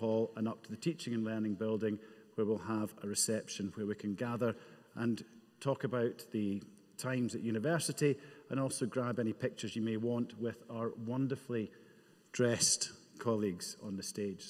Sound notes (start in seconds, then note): none